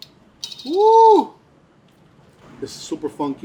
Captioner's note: exclaims